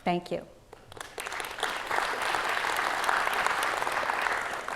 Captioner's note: audience clapping